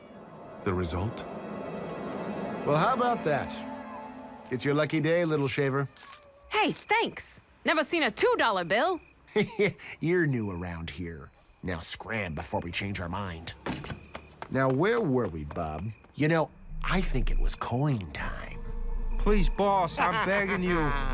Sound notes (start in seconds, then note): 9.2 chuckles; 13.6 footsteps departing